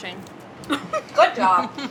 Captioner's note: laughs